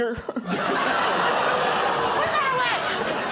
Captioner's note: laughter